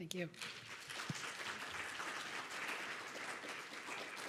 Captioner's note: audience applauds